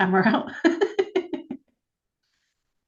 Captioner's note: laughs